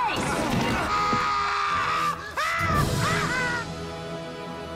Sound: screaming

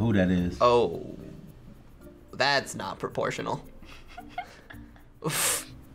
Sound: laughs

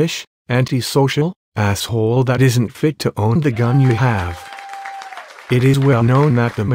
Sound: crowd cheering

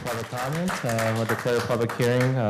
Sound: cheers and applause; applause

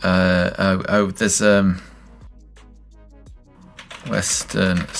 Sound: stammers

